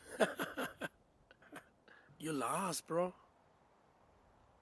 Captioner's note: laughing